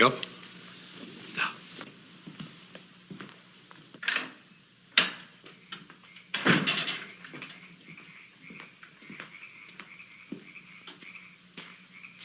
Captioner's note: door opens